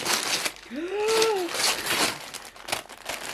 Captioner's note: gasp